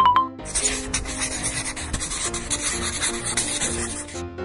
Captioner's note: scribbling noises